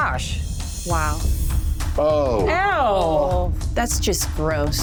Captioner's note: sounds of disgust